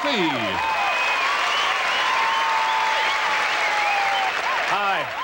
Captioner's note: crowd cheers